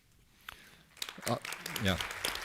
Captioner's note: appluase